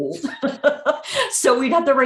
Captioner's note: laughing